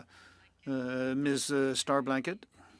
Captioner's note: speaking French